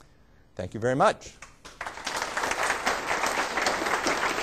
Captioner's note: applause